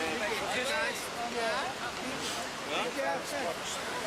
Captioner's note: idle chatter